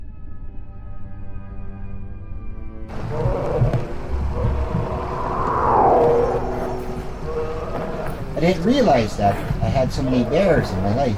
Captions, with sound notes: (bear growls) (wind whooshes) (grizzly growls) I didn't realize that I had so many bears in my life.